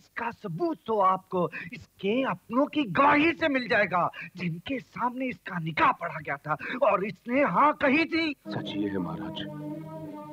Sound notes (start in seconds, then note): none